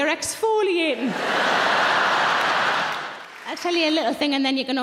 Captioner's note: audience laughing